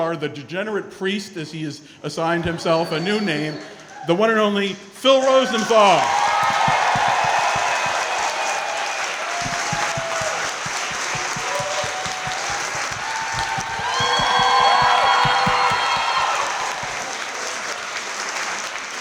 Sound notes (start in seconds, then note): 6.0 crowd clapping & cheering